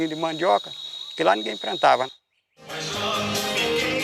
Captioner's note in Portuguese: Sons de insetos no mato; Música de rádio